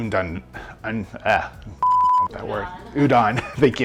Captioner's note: beep